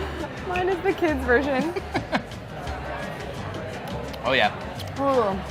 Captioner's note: laughing